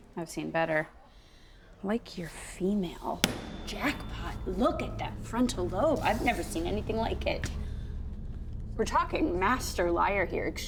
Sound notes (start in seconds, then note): 3.2 hand thuds